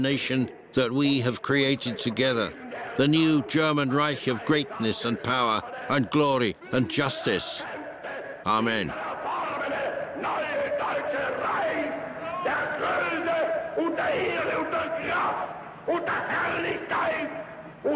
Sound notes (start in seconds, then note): 9.6 German spoken audio